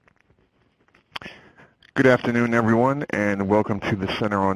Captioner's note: voiceover